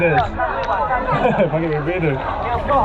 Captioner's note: laughing